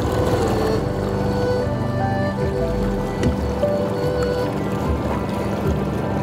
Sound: boat engine purring; serene music

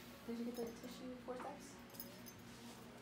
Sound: ghost voice

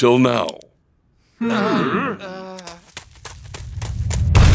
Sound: gasping

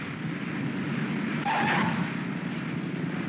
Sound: wheels chirp; aircraft rumbles

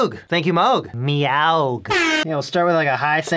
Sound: air horn

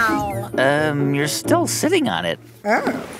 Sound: soundbite of squeaking

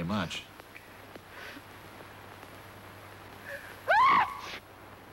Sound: sniff, sniff

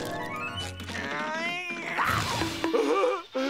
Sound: grunting; laughing

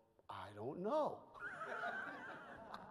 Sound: chuckles; audience laughs

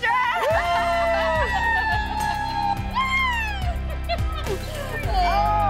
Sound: cheering

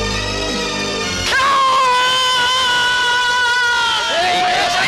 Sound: screaming

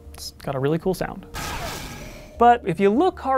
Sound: metallic, chunky laser gun noise!

